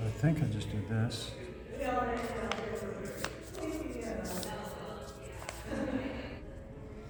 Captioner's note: background chatter